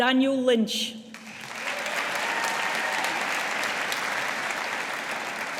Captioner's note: audience applauding